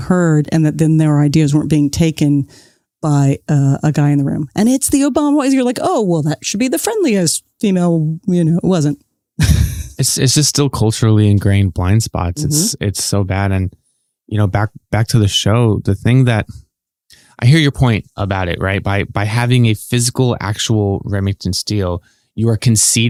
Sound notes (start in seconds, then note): 8.7 guffaw